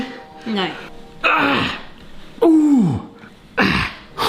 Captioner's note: grunts